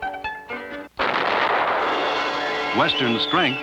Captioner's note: explosion